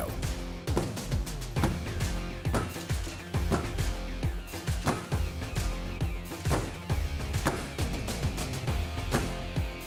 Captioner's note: hammering